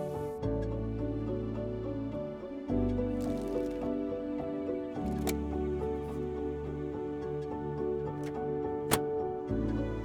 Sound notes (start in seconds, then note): 5.1 filter clicks into place; 8.8 filter clicks together